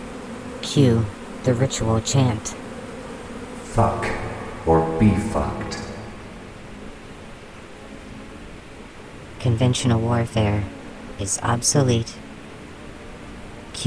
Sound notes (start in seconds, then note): 2.0 male voice, in a small echoing room; 7.0 the frenzied swarm calms